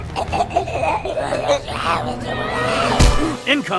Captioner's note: alien coughing